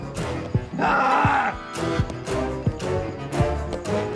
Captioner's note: Vincent yells